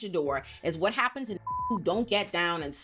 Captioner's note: beep